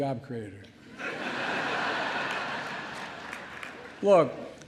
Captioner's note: laughter